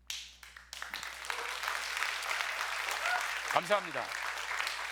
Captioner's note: applause